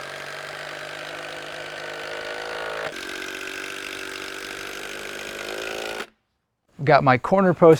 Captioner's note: drill whirring, no additional audio